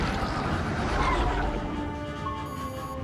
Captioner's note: tire squeal